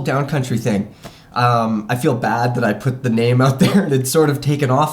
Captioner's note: chuckles